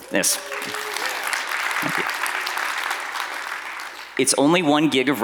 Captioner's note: audience applauding